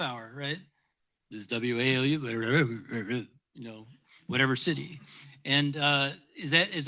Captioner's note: mumbles